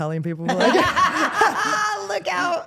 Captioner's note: all laughing